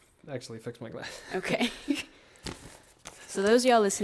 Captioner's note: laughs